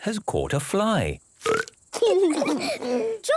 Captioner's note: burps